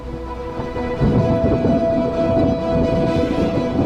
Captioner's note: thunder rumbles